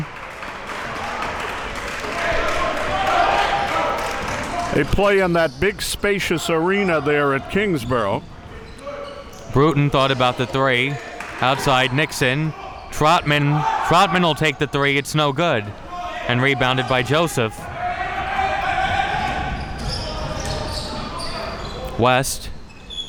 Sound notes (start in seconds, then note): 0.0 audience cheering and clapping; 18.1 coaches yelling